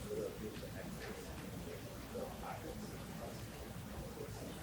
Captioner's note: audience chatter continues